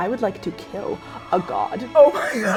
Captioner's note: gasping